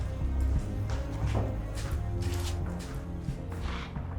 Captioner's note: footsteps